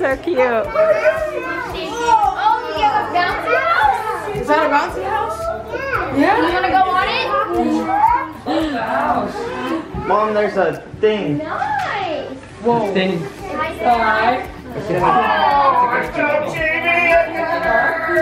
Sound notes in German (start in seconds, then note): 13.2 Aufruhr im Haus